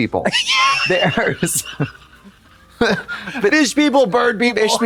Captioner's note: Katya rattles